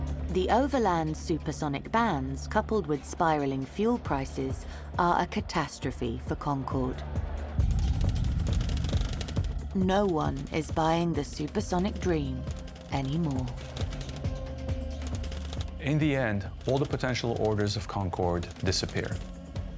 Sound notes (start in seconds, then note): 0.0 tense energetic music; 7.7 text clicking